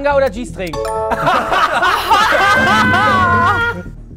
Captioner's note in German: Schallendes Gelächter